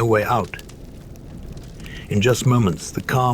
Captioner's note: flames roaring